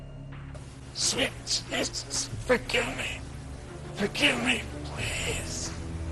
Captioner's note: struggles